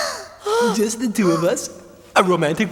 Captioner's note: gasping